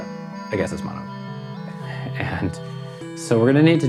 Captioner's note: laughs